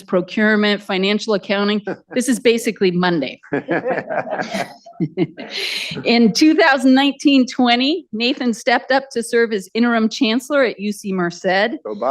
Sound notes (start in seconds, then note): 3.5 audience Laughter